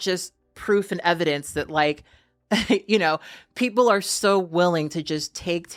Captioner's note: chuckles